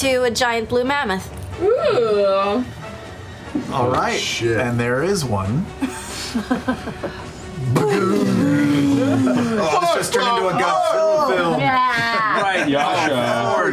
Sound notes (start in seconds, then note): 5.8 laughter; 7.6 booming